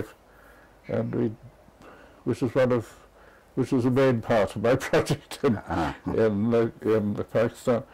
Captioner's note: laugh